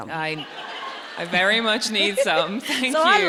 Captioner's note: audience laughs